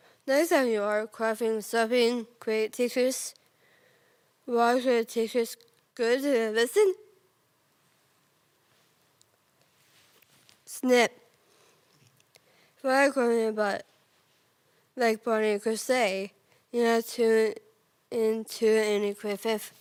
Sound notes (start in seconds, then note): 3.5 soft breathing; 7.2 rustling; 13.9 rustling